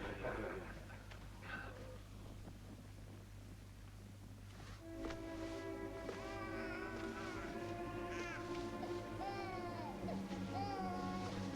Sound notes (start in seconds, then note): 4.8 suspenseful music; 5.9 baby crying